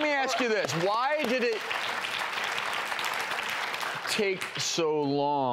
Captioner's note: clapping